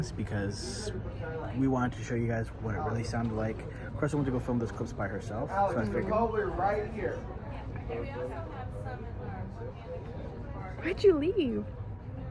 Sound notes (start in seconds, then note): 6.6 crowd chattering